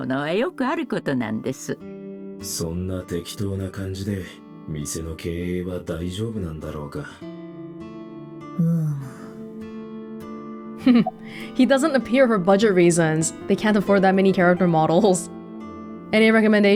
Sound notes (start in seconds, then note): 10.8 chuckles